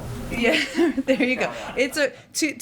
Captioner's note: laughter